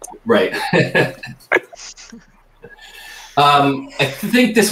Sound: laughs

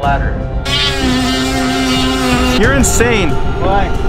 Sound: drill whirring

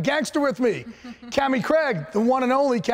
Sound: giggling

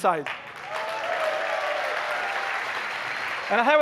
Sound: applause

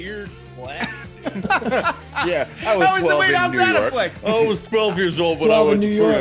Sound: laugh

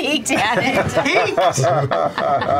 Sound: laughing; laughter

